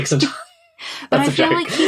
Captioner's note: laughing; laughs